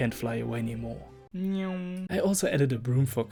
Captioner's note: hiding his pain noises